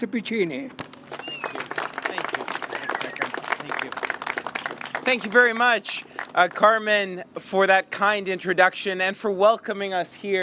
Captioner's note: applause